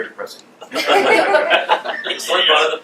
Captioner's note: laughs